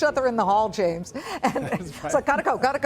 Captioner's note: laughter